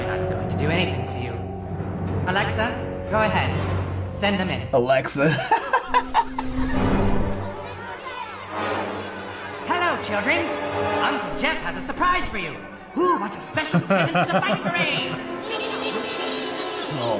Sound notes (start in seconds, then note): 4.8 laughs; 13.5 chuckles